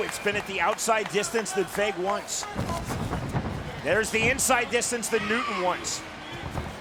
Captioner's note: applause